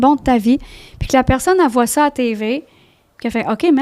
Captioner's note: in french